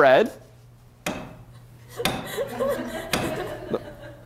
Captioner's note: laughter; bangs on jar lid